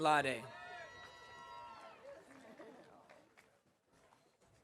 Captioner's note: audience cheering